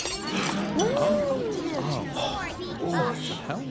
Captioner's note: loud crash; crowd gasps; crowd murmurs